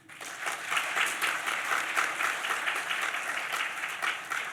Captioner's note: audience applauds